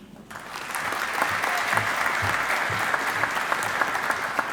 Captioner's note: audience applauding